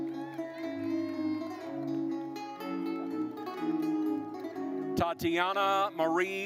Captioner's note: audience cheering and applauding